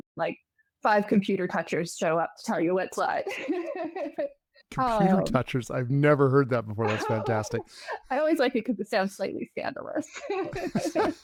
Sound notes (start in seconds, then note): 3.3 laughing